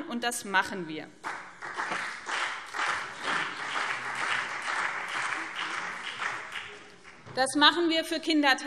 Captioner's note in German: Beifall BÜNDNIS 90/DIE GRÜNEN und CDU